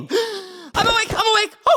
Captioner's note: gasp